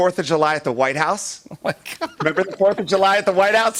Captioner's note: laughing